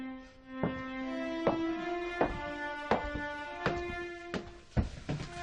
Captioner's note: high heels on stairs